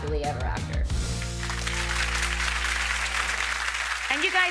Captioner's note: audience clapping